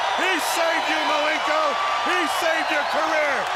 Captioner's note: crowd cheering